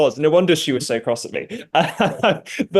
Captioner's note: laughs